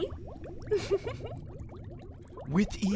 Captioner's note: laughs